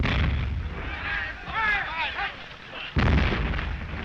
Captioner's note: explosions; all shouting